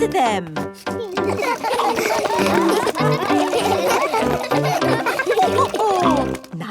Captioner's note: all laugh